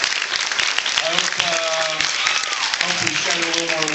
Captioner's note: applauds